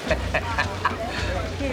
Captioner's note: laughs